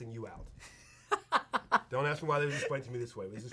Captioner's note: laughs